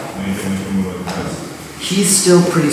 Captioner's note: speaking in a foreign language